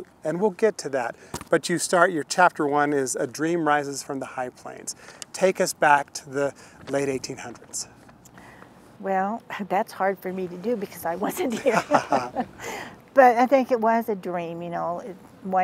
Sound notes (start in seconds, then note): 11.3 laughter